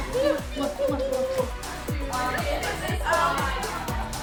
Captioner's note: kissing sounds; indistinct chatter